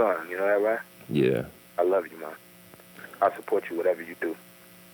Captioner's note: father, on phone